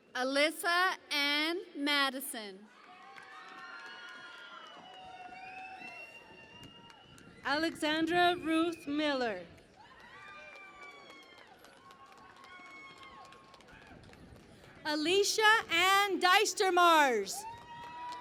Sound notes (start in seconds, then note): 2.6 cheering and Applause; 9.4 cheering and Applause